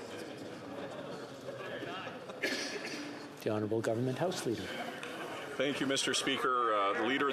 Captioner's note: chatter